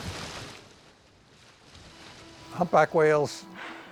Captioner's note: water splashing